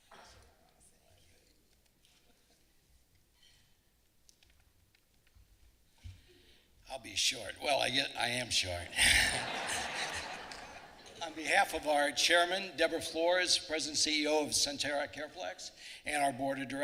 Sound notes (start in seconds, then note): 8.8 laughing